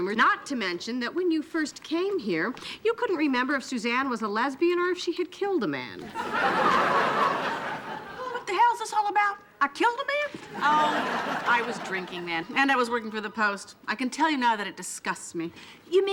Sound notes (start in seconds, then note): 0.0 laughing; 6.0 audience laughing